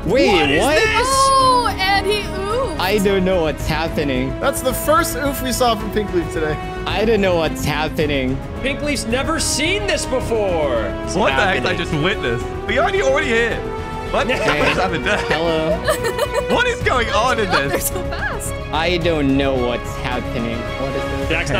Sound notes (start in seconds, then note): 14.1 people laughing